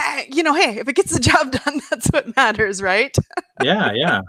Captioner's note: chuckles